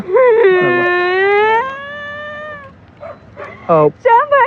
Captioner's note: cryining